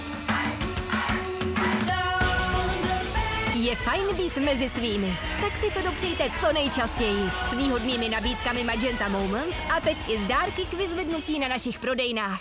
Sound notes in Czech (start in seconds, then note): 5.4 Dav nadšeně bouří